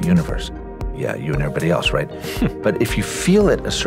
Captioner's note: chuckles